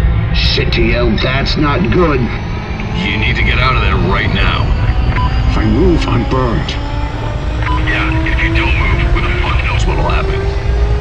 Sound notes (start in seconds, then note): 0.0 mechanical whirring; 4.5 whirring getting even louder; 5.5 whirring steadily getting louder; 6.9 whirring getting even louder; 10.7 machine starting